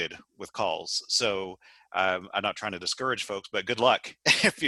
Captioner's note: laugh